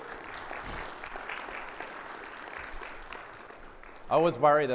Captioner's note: audience clapping